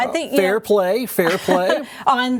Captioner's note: laughing